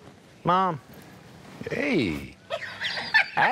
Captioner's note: laughs